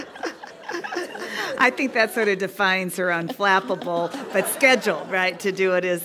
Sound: laugh

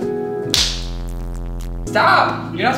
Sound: buzz

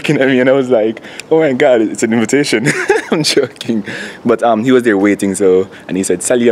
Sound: laughs

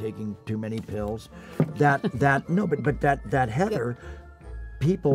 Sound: Heather chuckling

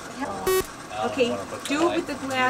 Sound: beeping

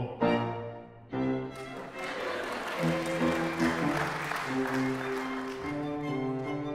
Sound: audience Applause

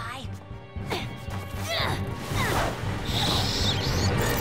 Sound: screeches

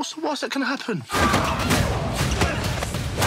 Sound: both grunting

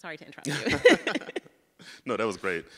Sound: both laugh

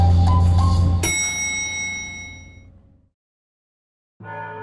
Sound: bell ringing; bells tolling

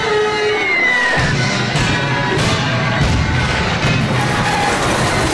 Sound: thudding

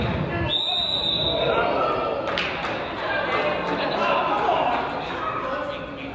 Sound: whistle blows; crowd groans

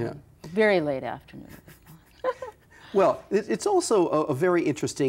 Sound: laughs

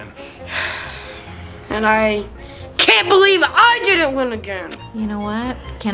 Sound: sighing

